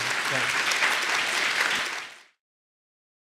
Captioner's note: applause